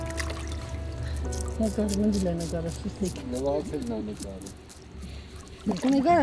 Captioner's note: indistinct chatter